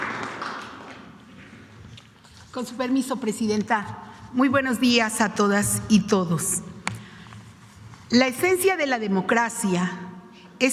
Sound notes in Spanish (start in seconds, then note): 0.0 aplausos